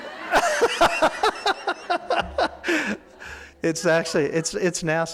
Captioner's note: laughing